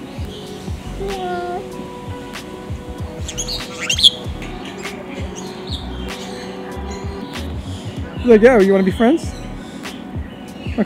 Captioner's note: bird chirps